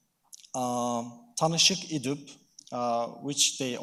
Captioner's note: speaking in foreign language